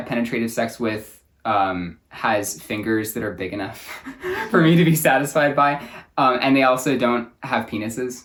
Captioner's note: both laugh